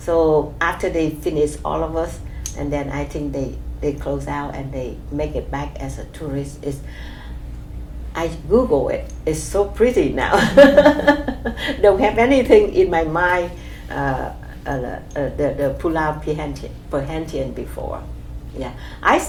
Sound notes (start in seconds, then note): 10.3 laughs